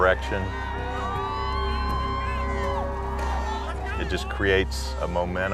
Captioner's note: cheering